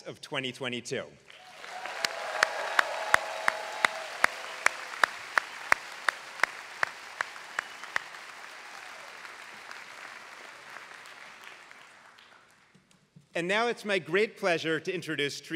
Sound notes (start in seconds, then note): 1.3 applause